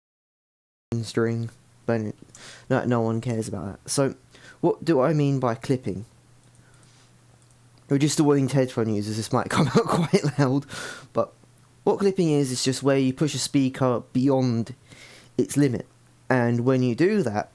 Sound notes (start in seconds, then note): 10.6 inhales